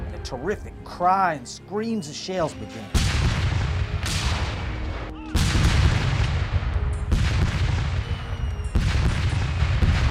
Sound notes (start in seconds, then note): 6.0 cannon fire